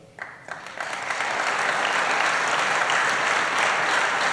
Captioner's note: applause